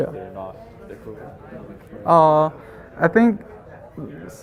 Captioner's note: faintly speaking